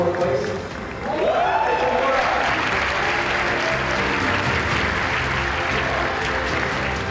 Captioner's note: applause